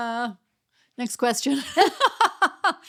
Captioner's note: laughing